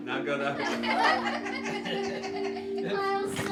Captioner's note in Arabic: ضحك